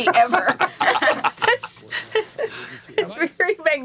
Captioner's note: laughing continues